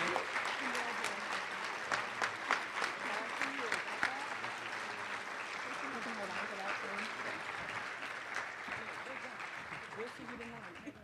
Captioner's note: applause